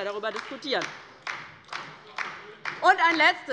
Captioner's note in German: Beifall bei der LINKEN, der SPD und der FDP